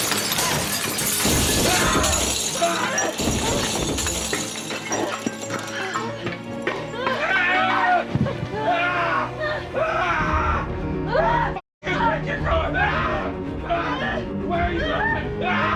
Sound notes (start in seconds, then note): 0.0 mirror breaking; 1.9 dramatic music; 7.6 kidnapper screaming; 15.5 Larry screaming